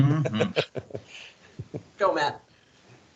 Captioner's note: laughing